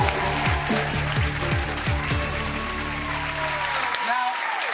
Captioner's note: cheers and applause